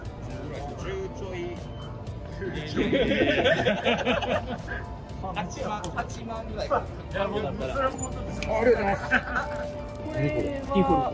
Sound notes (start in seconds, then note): 2.7 laughter